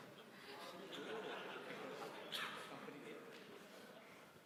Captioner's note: laughter